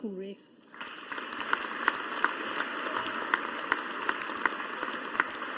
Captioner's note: audience applauding